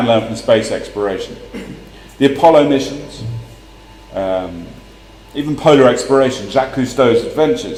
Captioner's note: cough